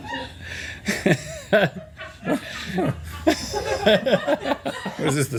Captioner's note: laughter